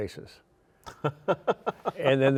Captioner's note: laughing